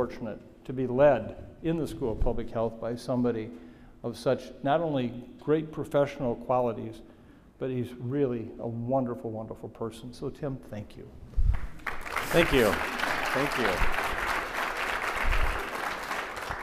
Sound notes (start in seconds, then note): 11.5 audience applauding